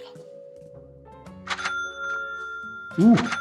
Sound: cash register chimes

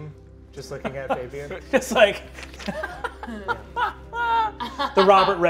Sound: laughs

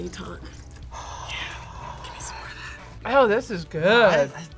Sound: sighs

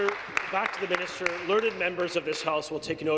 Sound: applause

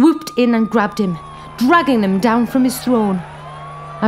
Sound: sirens and shouting

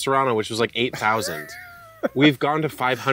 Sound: laughs

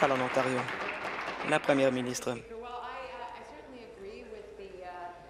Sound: applause

